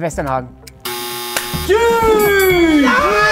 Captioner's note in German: Jubel, Grölen